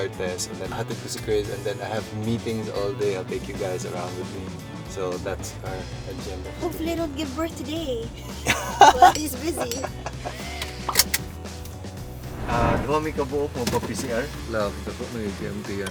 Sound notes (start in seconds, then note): 8.4 laughs; 12.6 speaks in Bisaya